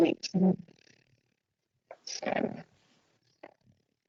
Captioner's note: distorted audio